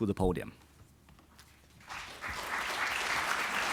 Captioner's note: applause